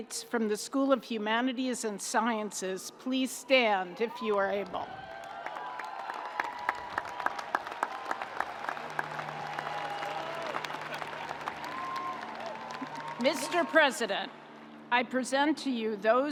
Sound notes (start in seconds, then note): 4.9 audience applauding